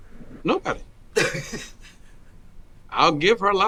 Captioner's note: woman laughing